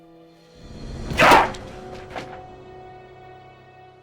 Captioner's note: book thuds